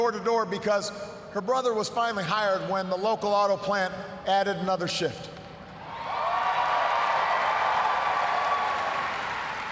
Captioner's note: cheers, applause